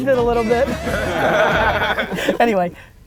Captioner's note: laughing